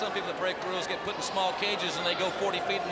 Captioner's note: crowd chatter